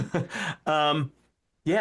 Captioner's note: laughing